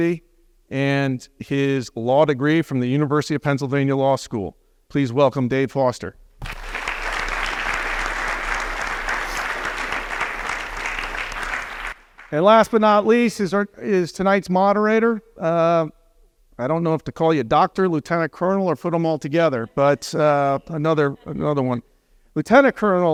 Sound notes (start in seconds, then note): 6.4 applause